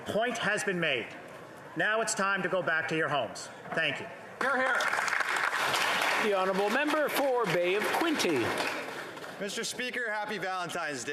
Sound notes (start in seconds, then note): 7.2 applause